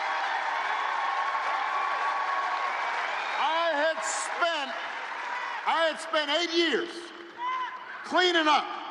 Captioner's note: applause